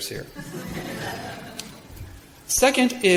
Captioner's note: laughing